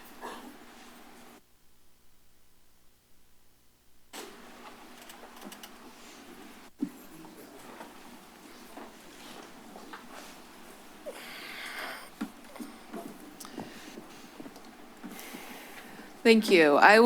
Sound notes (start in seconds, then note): 0.0 silence; 5.9 silence; 9.1 shuffling sounds